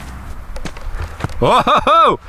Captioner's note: flag banging